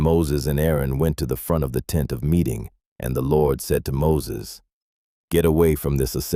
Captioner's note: sternly